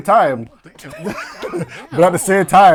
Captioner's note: laughing